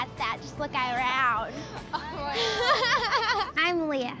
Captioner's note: laughs